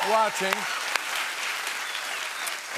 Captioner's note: cheers and applause